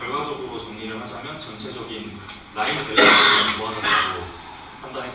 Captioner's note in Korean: 목을 가다듬음